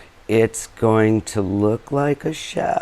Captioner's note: none